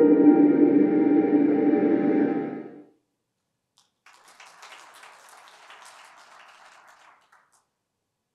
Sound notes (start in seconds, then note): 3.7 applause